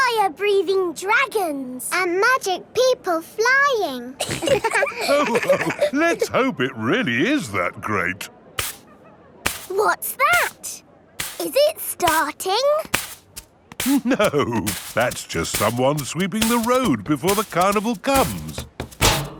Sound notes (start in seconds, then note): 4.2 all laughing; 9.4 brushing